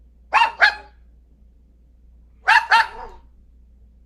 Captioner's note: dog barking